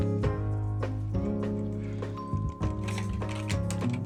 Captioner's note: ding dong